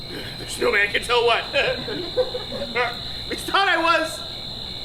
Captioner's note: laughs